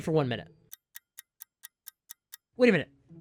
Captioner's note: ticking clock